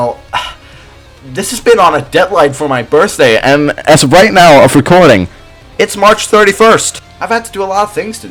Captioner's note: actual mic clipping wow